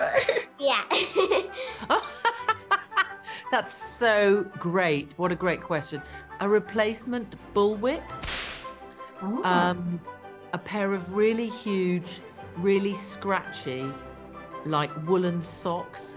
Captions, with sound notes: Yeah [laughs]. [laughs] That's so great. What a great question. A replacement bullwhip. - [whip cracks] - Ooh. Um, a pair of really huge, really scratchy, like, woollen socks.